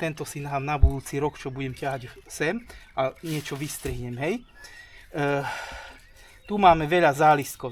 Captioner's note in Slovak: vzdychanie